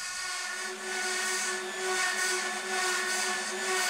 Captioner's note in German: Durchdringendes Surren der Maschine